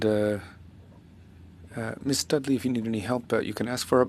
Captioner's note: speaking French